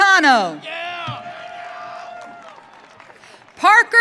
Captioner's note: audience cheering